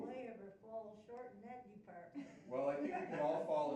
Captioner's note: laughing